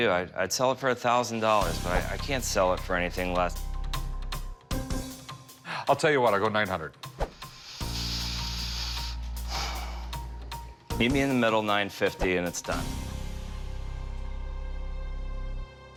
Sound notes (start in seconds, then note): 3.9 tense music; 7.4 inhales; 9.1 exhales